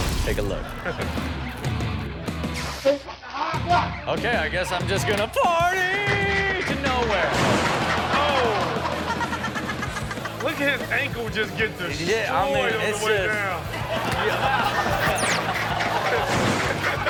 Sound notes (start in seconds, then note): 1.3 upbeat music; 2.9 speaking a foreign language; 7.0 Chanel and audience laughing; 9.6 Chanel laughing; 13.6 all laughing